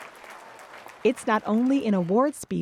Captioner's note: applause